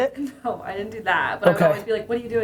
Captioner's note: laughs